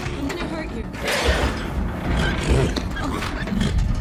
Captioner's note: horse sneezes out its lung